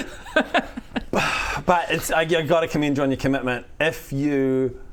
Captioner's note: sigh